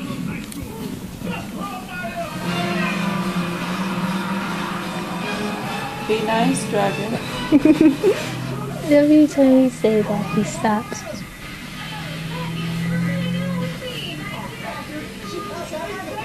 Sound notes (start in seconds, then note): 7.4 laughs